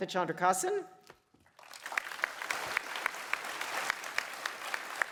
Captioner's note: applause